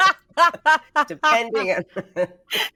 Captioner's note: Deborah laughs